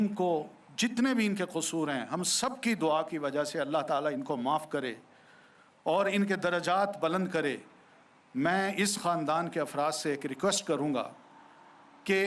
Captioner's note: speaking urdu